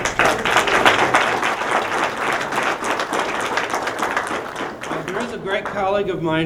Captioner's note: applause